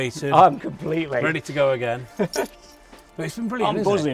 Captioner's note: laughs